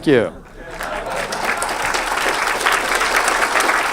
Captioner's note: audience claps